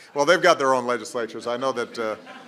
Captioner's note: laughter